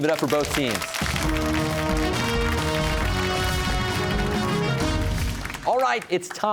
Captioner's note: cheers and applause